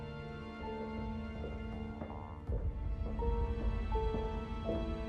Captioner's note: footsteps clack